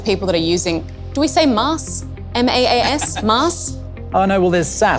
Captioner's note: laughs